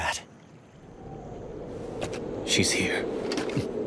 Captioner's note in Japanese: 風の音